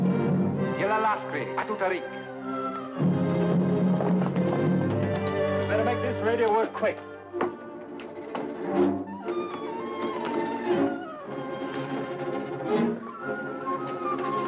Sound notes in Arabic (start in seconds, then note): 1.5 يتحدث لغة أجنبية; 9.0 موسيقى مشوقة